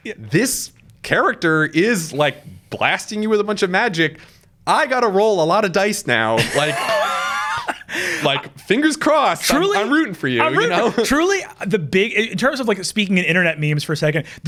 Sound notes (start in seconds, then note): 6.4 laughing